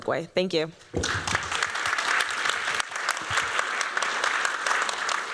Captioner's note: applause